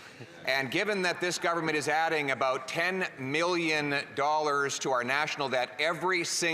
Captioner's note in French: voix de l'interprète